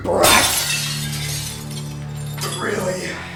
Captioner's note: glass shattering